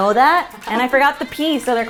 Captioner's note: laughing